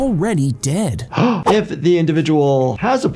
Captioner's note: sighs